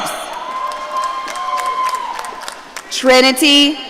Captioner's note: audience cheering